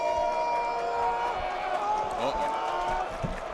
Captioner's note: cheers and applause